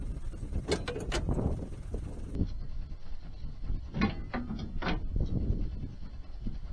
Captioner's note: hinge pops off